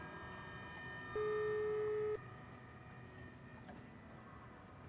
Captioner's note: phone hums